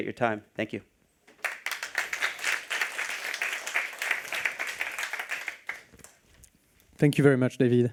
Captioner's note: applause